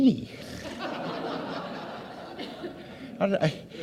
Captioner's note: audience laughs